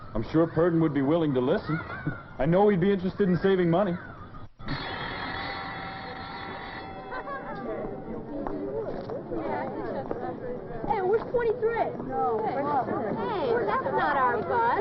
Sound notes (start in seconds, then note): 4.7 school bell rings; 7.2 children chattering